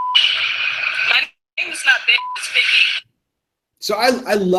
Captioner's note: beeping